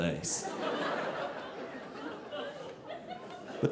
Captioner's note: audience laughing